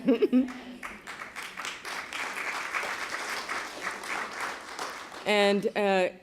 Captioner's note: applause